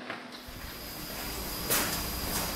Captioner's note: fan noise